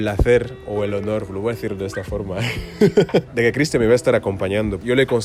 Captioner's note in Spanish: Risas